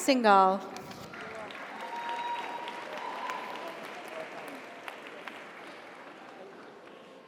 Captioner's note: audience applauds; audience cheers